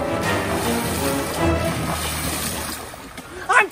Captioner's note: water sloshes